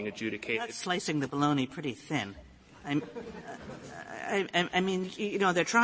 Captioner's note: laughter